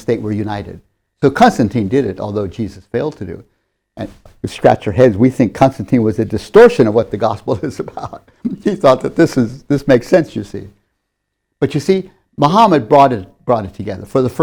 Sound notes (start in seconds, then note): 8.4 laughs